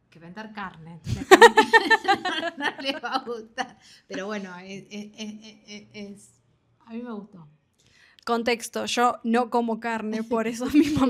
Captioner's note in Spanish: risas